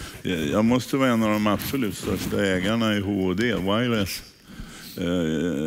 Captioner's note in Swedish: none